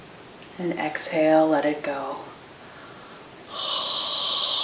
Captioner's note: exhales